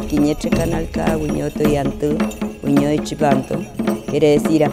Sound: she speaks in mapuzungun

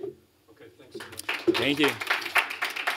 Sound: applause

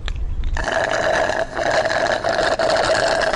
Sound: loud Slurping

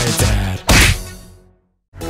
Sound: wham

